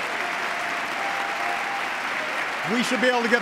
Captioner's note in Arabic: تصفيق